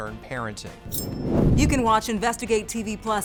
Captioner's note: swooshing